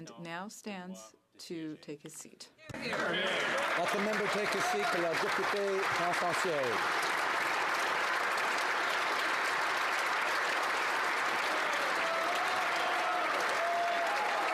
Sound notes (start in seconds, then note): 11.2 speaking French; 12.1 applause